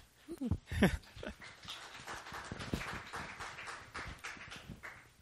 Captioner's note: laughs; applause